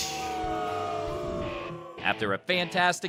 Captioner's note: booing